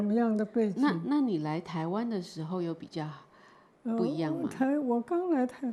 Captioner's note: Mandarin